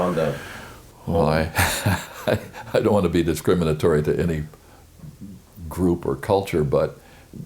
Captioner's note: chuckles